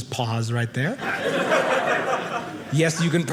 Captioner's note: audience laughing